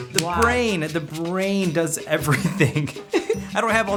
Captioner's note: laughs